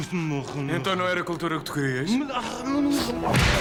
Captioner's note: pseudo-Arabic gibberish